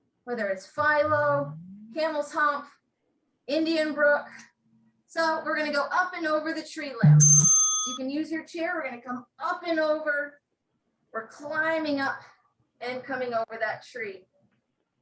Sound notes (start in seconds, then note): 7.0 bell rings